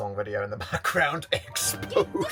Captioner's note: laughs